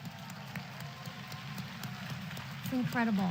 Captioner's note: applause